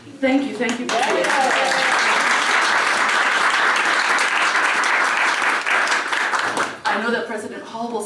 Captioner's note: applause